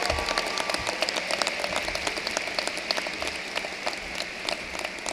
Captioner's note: cheering and applause